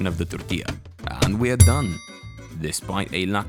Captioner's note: timer dings